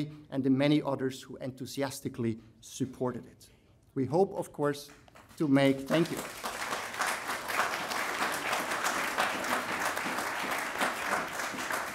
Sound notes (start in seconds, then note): 5.8 audience applauding